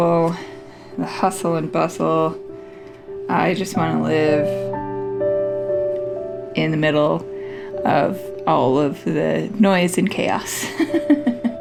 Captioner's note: laugh